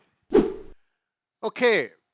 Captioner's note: air whooshes